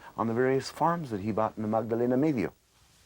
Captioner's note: speaking in non-English